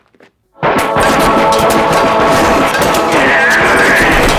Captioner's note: sounds of ZERO being shot